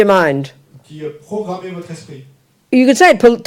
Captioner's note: audience member speaks in French